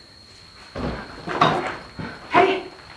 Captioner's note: door rattling, footsteps